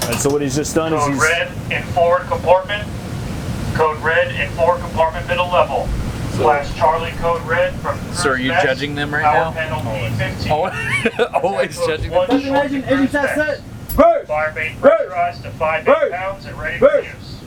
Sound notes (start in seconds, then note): 9.7 laughs; 12.8 man yelling